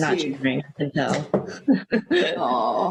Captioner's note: laughs